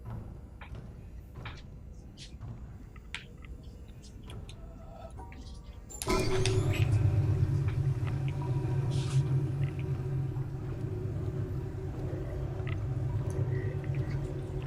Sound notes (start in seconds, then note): none